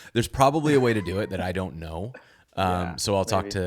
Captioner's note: laughing